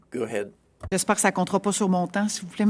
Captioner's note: speaking French